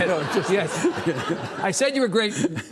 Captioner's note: Lawrence chuckling; audience laughing